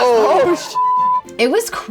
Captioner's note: beep